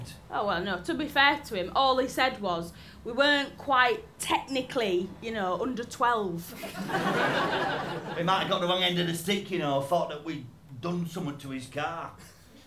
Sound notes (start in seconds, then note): 6.5 laughter